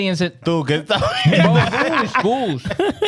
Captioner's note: laughing